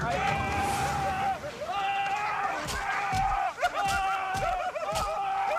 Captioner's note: man laughing chaotically; man yelling